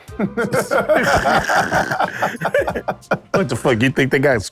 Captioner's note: laughing